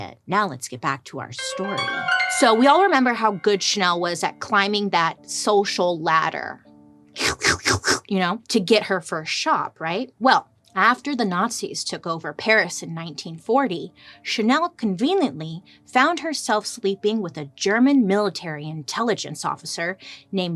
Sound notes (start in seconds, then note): 1.4 ominous piano trilling; 7.2 slurps